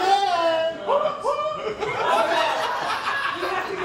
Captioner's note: audience laughs